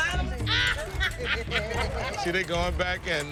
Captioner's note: laughter